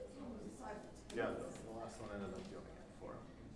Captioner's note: group chattering together